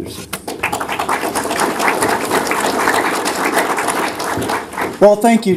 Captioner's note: applause